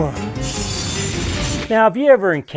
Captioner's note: saw blade running